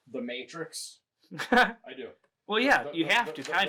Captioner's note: chuckles